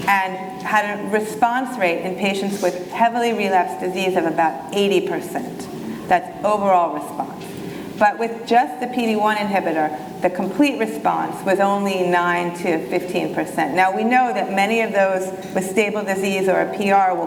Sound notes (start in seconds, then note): none